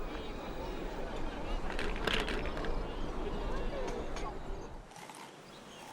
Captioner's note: none